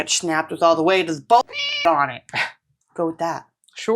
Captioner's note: meow